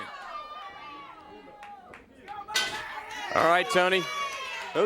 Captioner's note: crowd chatter